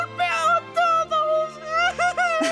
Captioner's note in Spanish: Llantos patéticos